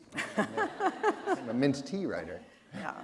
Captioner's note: laughter